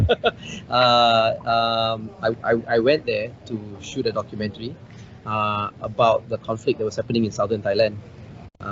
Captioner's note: laughs